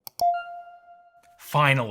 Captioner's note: beep sound